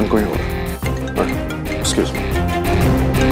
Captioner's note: Phone ringing